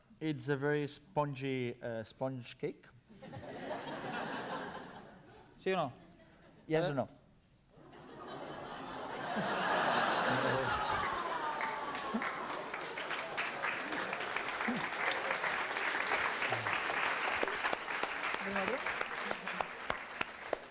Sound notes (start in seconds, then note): 3.2 laughter; 5.7 non-english speech; 7.8 laughter; 11.3 applause